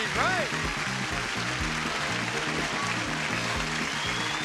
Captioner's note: audience applause; theme music